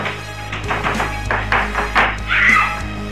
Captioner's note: doorknob rattle; scream